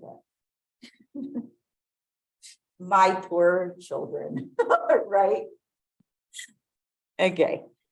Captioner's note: laughs